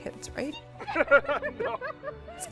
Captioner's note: chuckling